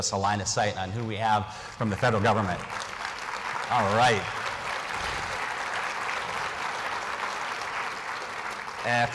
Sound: applause

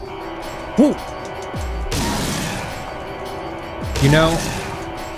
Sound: fear sounds

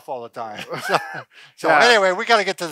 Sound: laughs

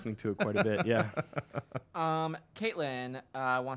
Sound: laughs

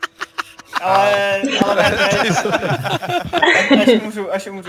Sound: laughter

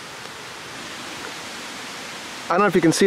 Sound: metal clinking; water running

